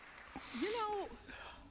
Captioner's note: applause